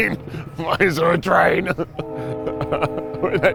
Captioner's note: laughing